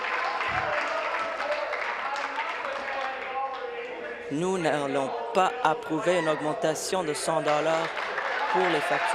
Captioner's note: applause